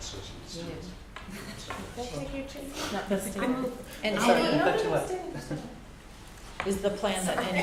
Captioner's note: background Conversation